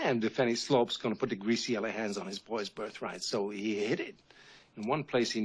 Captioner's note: slur